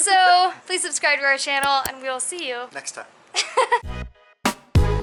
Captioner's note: laughter